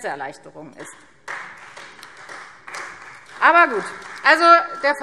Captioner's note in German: Beifall Freie Demokraten